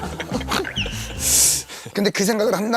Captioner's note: haha